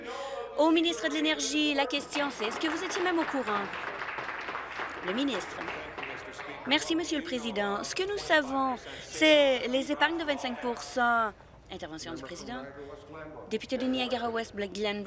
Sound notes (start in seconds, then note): 6.1 applause